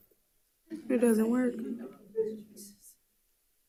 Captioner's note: audience chuckles